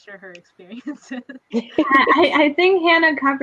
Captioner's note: laughing